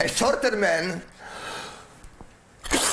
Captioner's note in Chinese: 吸氣